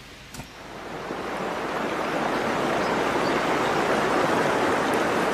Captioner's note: rushing water